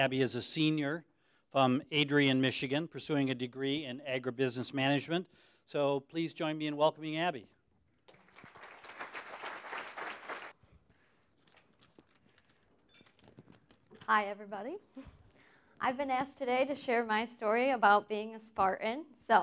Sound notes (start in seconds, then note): 8.0 applause